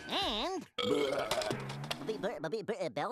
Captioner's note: belching